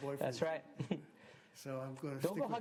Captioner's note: chuckles